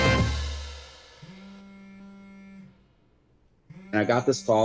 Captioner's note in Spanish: vibración de teléfono